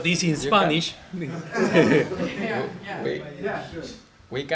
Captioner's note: laughter